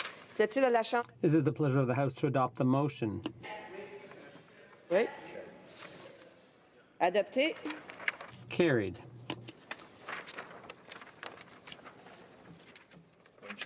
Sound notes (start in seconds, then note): 4.5 speaking French